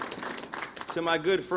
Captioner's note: applause